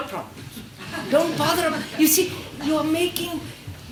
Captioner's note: laughter